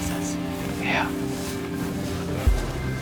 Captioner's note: whispering